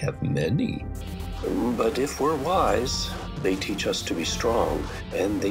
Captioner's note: voice of High Chief